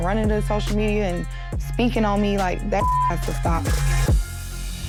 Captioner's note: beep; tense music